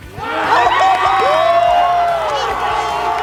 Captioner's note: crowd roars